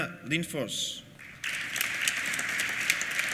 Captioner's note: applause